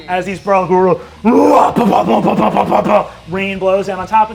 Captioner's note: mimics roaring, blows